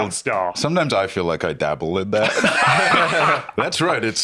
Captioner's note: laughs